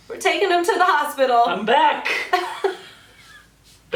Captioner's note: laughs